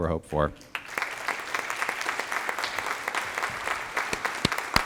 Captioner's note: applause